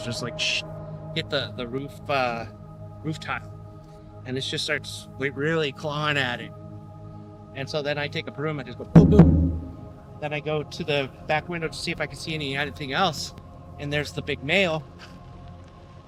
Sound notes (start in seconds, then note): 8.9 imitates broom booming